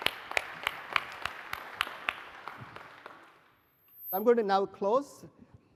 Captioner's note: applause